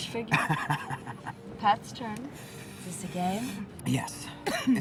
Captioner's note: Mickey laughs